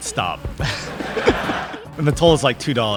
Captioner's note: laughter